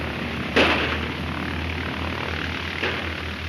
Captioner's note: gunshots